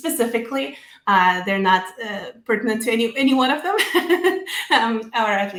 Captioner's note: laughs